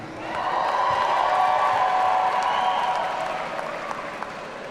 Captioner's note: audience cheering